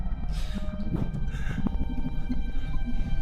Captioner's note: soft tense music; Clint gasping softly